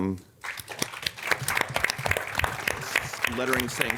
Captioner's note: audience clapping